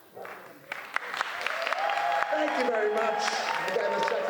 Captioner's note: applause